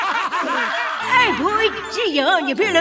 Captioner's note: laughing